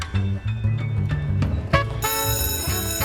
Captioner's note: school bell rings